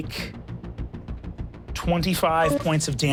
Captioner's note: engine powering down; computer beeps